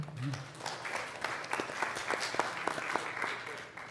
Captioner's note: applause